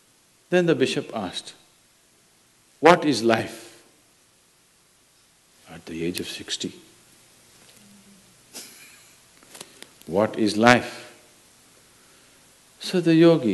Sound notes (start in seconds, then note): 8.5 laughs